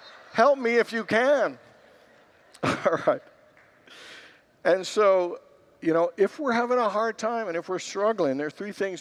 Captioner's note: congregants laugh